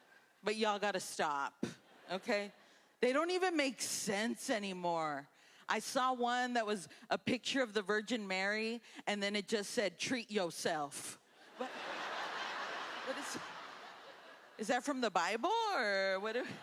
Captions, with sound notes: But y'all gotta stop. Okay? They don't even make sense anymore. I saw one that was a picture of the Virgin Mary and then, it just said, "Treat yourself." (laughter) Is that from the bible or...